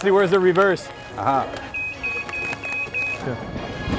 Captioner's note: beep beep beep